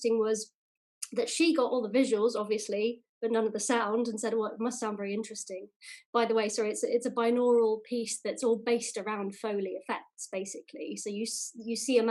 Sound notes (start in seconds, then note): none